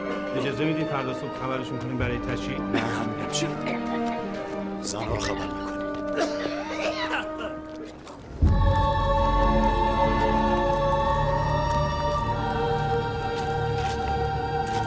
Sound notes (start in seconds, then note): 5.0 coughing; 8.2 dramatic music